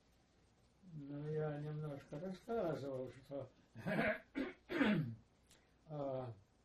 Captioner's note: clears throat